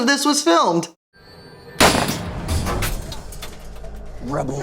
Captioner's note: gunfire